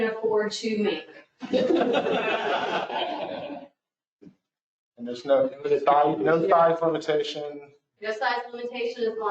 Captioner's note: laughter